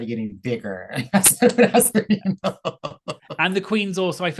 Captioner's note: laughs